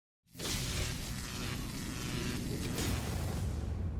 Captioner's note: electricity zapping